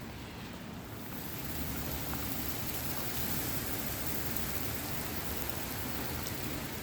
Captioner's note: wind blowing; rain falls; wind blowing